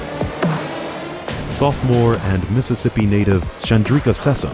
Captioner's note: voiceover